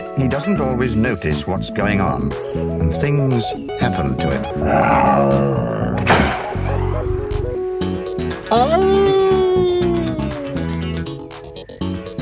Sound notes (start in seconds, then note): 4.5 roar!; 6.0 bang!